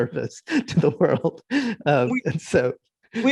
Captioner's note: laughing